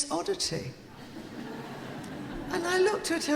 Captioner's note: audience laughing